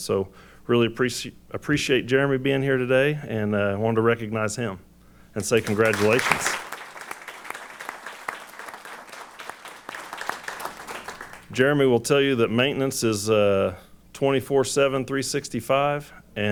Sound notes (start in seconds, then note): 5.4 applause